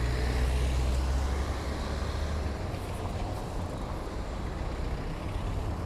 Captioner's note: street noises